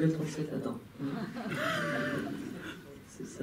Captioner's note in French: rires